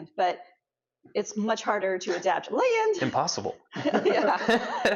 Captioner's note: laughs